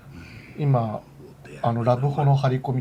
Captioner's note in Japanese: 咳払い